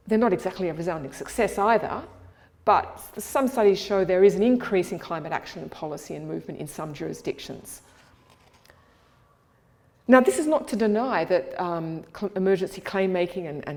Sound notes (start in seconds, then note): none